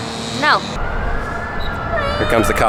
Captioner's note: siren wailing